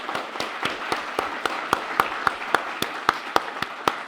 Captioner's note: audience applauds